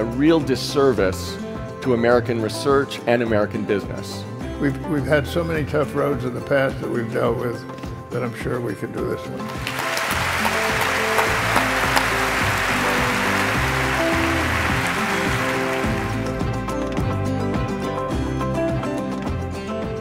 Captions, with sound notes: and a real disservice to American research and American business. >> We've had so many tough roads in the past that we've dealt with that I'm sure we can do this one. [ Applause ]